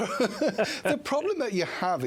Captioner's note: laughter